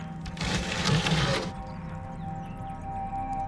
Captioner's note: door scrapes